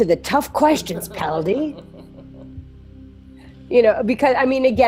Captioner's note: laughs